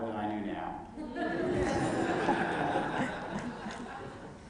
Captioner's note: laughter